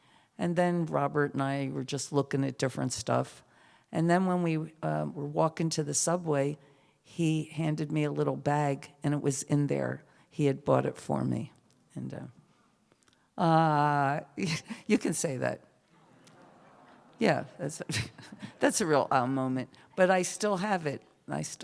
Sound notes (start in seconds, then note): 16.0 laughter, "awwwww"